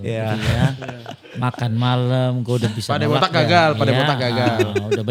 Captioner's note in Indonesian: tertawa